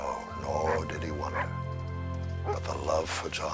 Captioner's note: Buck barking